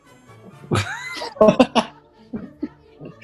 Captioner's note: laughing